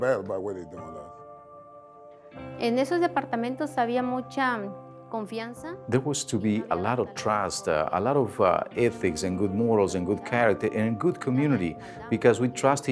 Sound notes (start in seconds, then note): 2.4 speaking Spanish